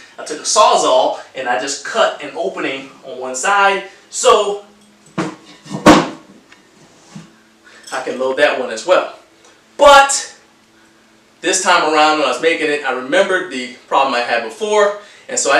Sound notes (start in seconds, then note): none